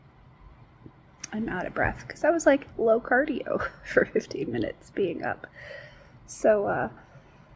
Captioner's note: sighs